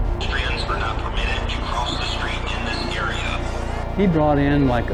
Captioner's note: police radio chatter